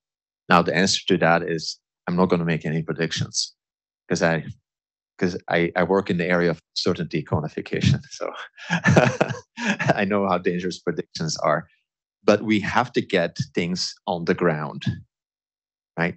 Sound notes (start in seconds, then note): 7.8 laughs